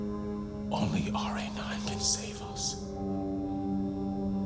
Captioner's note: quietly